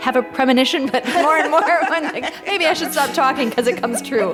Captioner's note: both laughing